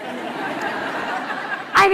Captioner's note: laughter